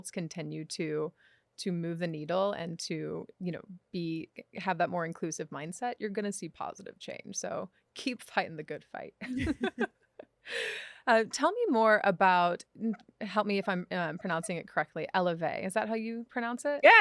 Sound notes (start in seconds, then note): 9.2 both laugh